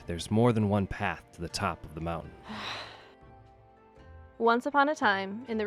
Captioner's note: sigh